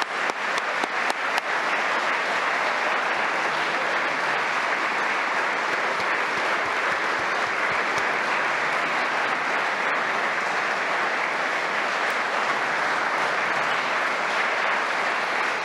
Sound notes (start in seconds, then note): 4.3 applause